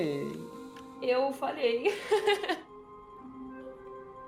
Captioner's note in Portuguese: Risos